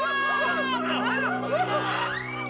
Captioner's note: people screaming